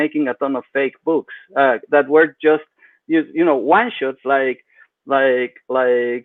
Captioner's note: speaks faintly